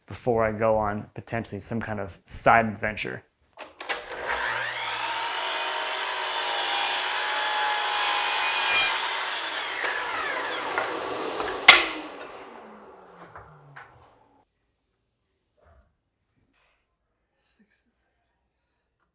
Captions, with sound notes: before I go on potentially some kind of side adventure. (saw whirring) (wood thuds) Six.